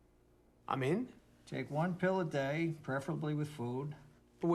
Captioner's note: none